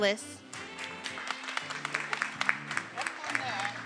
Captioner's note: attendees applauding and cheering